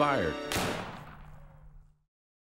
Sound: gun fires

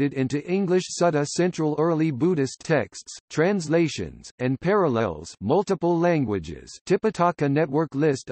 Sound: multiple Languages

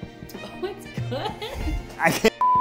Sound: laughing; beep

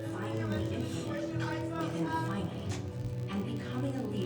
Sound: shouting

